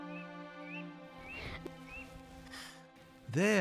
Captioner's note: Clara wincing